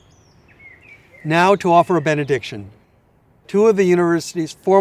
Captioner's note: birds chirping